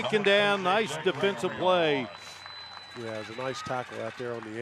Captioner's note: laughter